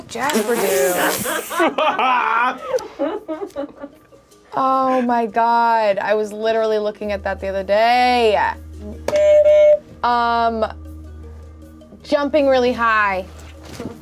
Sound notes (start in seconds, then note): 1.0 laughs; 9.1 buzzer honks